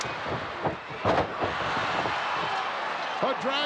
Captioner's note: crowd cheering; body thuds